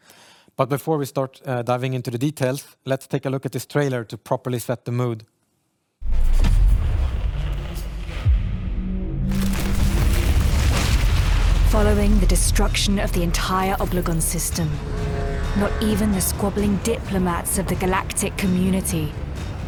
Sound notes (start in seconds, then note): 6.0 explosion